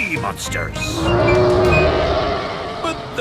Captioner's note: roaring